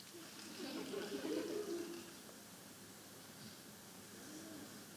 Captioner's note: audience laughing